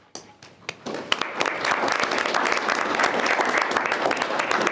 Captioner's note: participants applauding